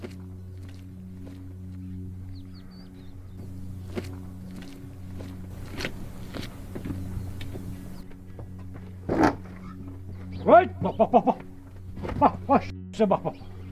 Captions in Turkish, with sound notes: [Ortam Sesi] Hoyt, bak, bak, bak! Bak, bak, huysuza bak!